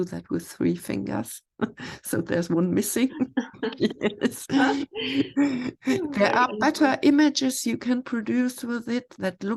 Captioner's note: laughs